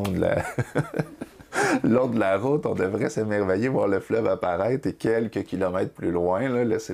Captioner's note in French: rires